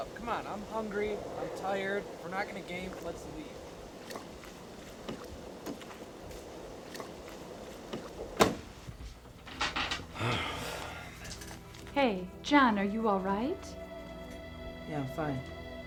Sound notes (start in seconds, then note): 7.9 door thuds; 10.1 Zac sighs